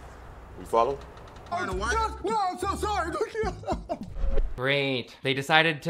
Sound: sobbing

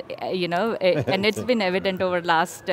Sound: laughing

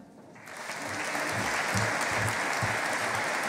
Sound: audience applauding

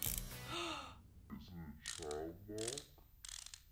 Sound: gasps

